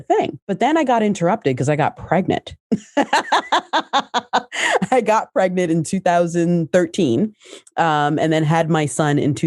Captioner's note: laughs